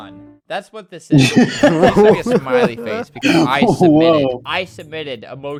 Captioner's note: laughs